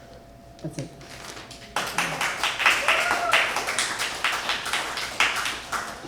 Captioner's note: applause